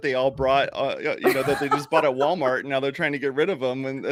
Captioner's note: laughing